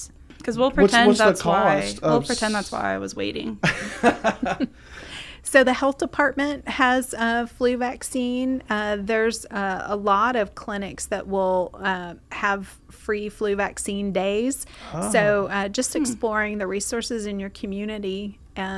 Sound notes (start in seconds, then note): 3.7 laughs